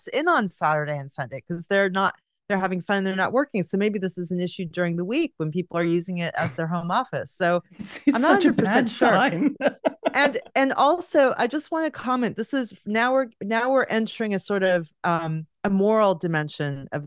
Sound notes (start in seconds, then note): 8.1 laughs